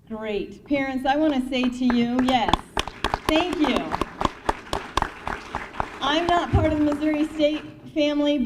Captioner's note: applause